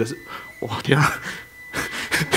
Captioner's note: laughs